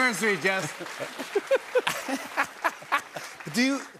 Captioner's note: laughter